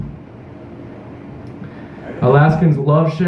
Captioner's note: audience members remarking